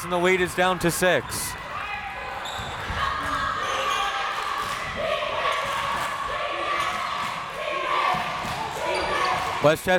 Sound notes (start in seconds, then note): 2.7 crowd members shouting; 4.8 crowd members chanting